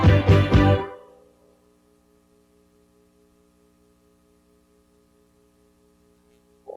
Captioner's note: silence